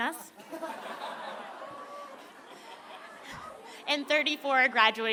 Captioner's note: laughter